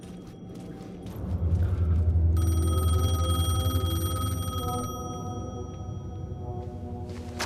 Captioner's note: phone ringing